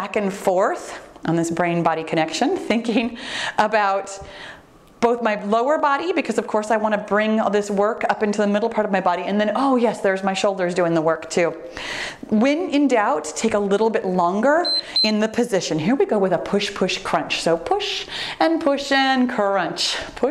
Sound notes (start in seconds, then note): 14.6 timer beeps